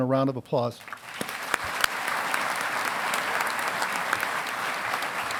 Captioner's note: audience applauding